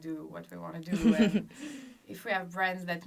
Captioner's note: laughs